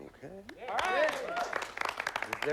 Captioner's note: cheers and applause